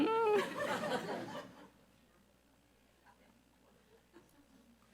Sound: audience laughs

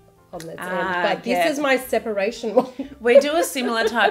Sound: laughing

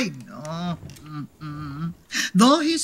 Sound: chair rocking

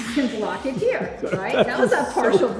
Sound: Tony laughs

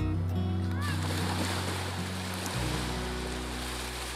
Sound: waves splashing

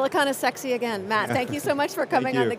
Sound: chuckling

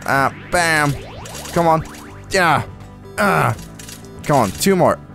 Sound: grunts

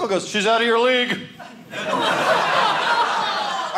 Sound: audience laughing

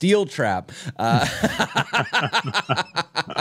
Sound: laughter

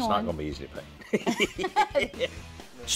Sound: both laugh

